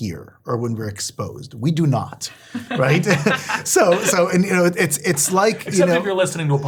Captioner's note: laugh